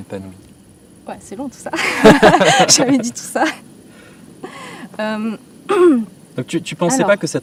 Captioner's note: laughs